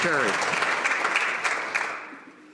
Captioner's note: some Applause